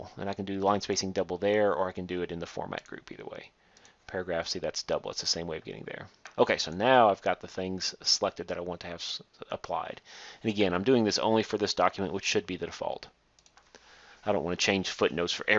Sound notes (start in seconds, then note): 3.8 clicking; 13.3 click